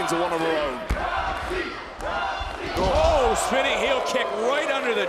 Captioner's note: applause